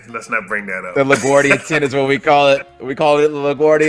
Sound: laugh

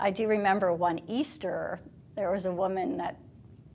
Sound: speaking foreign language

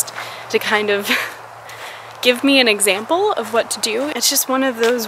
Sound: laughs

